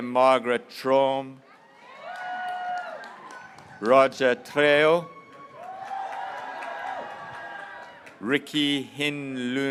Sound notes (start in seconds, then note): 1.6 graduates cheering